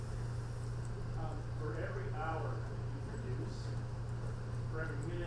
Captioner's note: voiceover